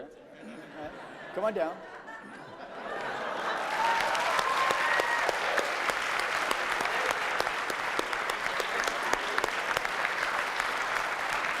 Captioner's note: laughter, applause